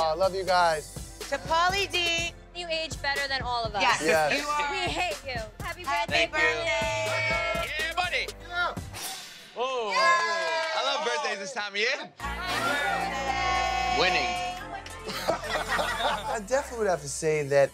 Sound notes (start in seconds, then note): 9.6 crowd cheers; 15.1 laughs